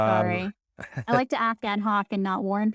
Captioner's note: laughing